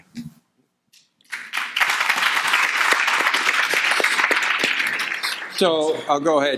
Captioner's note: audience applauding